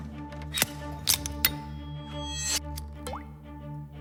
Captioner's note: instruments clicking; blood drips